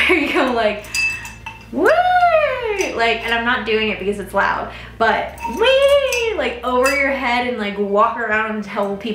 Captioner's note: yells